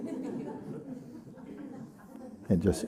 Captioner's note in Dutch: gelach